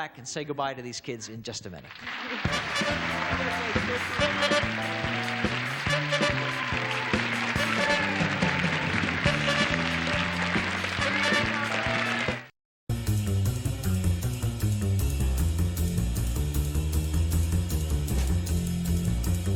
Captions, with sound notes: We'll come back and say goodbye to these kids in just a minute. -(applause) -(lively music)